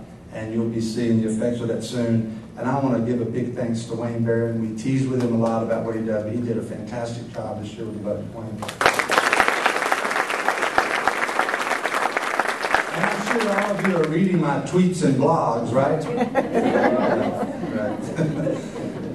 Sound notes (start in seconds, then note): 8.6 applause; 16.0 laughter